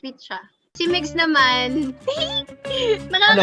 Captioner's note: giggles